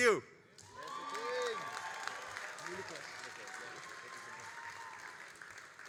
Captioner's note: all applauding and cheering